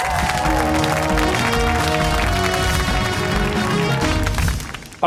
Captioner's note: cheers and applause